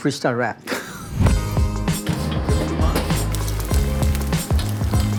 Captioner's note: laughs; upbeat music; oil sizzling; pot clinking